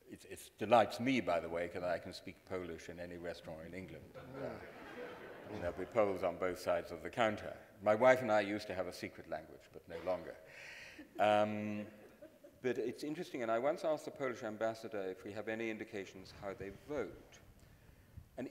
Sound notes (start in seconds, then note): 4.2 audience laughing; 10.8 audience chuckling